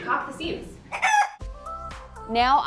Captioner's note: chicken clucks; upbeat pop music